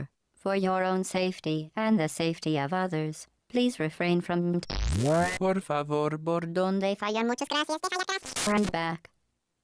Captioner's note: bzzzzzt